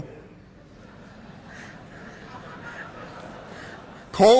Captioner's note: laughter